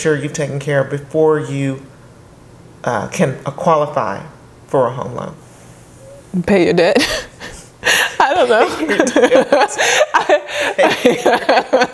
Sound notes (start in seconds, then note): 7.8 laughing